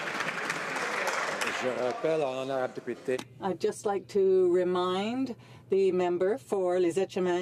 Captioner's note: some Applause